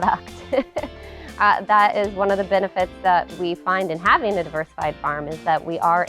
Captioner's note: laughs